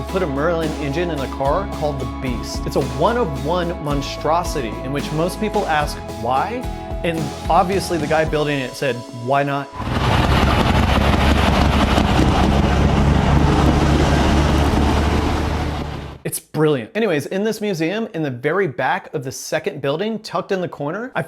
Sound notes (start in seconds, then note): 9.8 loud old aircraft like exhaust noise